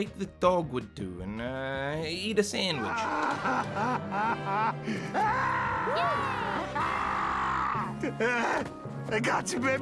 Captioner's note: crying in sheer delight